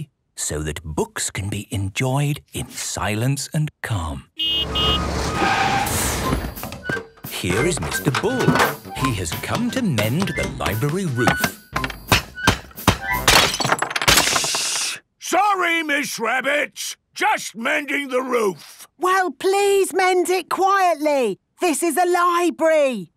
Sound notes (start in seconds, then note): 4.4 honking, engine revving; 11.5 banging, crashing; 22.9 whispering